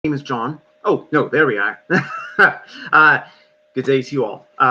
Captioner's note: laughs